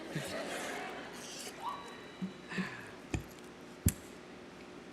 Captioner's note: audience laughing